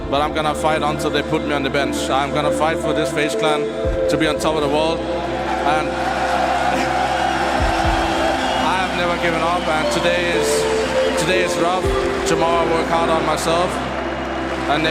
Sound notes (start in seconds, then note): 5.1 crowd cheering; 5.1 crowd whistling